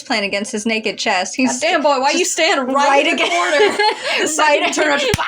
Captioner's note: laugh